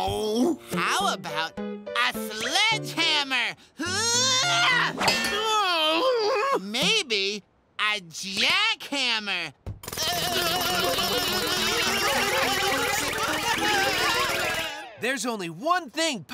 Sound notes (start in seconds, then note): 3.8 screams; 9.8 jackhammering